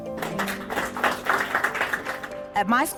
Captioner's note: crowd applauds